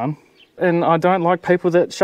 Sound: none

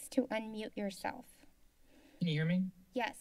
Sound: silence

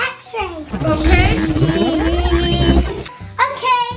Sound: buzzing sound

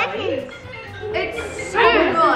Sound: mobile phone ringing

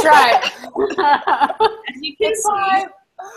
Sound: laughter

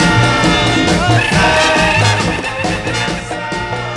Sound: musicians cheering

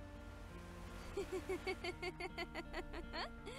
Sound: laughs maniacally

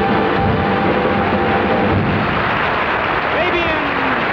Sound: heavy applause

